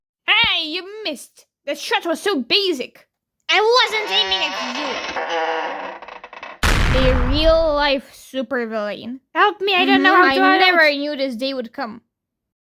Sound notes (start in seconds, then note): 3.6 creaaakkkk